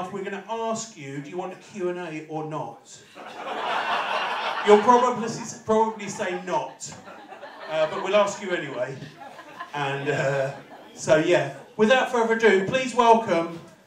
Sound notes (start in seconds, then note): 9.4 laughter